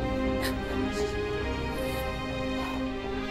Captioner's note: Ananya crying